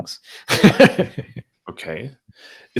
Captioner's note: laughing